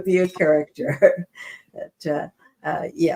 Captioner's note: chuckles